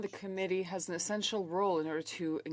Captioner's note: speaking French